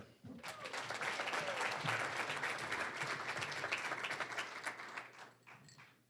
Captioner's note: applause